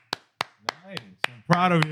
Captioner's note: applause